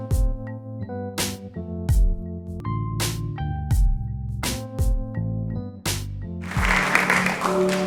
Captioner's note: upbeat music; audience applauding